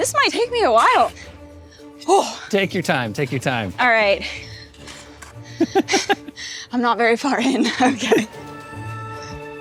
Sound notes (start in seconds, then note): 1.8 sighs; 4.4 panting; 5.6 laughs